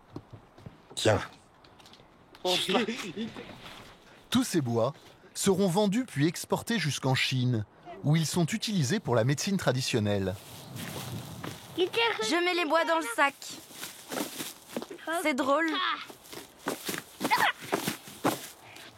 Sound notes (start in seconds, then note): 11.6 foreign spoken audio